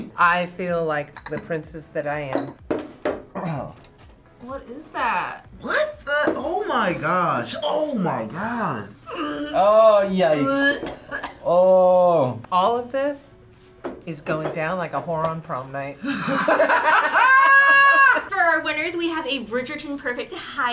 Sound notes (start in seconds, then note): 3.3 clears his throat; 16.0 both laugh